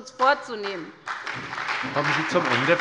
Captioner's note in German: Lebhafter Beifall bei der SPD, der LINKEN und der FDP